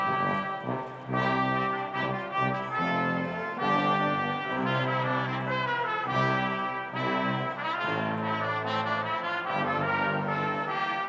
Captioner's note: cheering